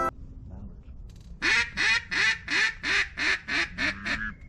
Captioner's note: duck Call